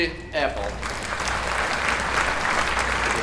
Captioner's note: applause